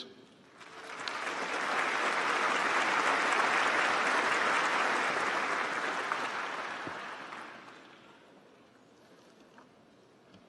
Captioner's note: applause